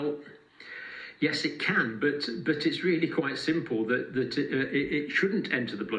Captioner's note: sigh